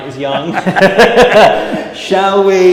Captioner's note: laughing